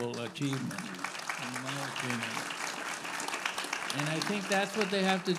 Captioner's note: audience applauding